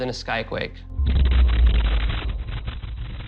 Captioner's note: loud explosion